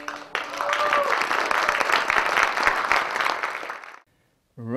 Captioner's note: crown applauds